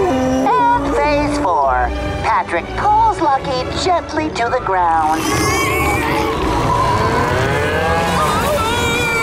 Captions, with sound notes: And phase four. Patrick pulls Lucky gently to the ground. [mooing] Whoa!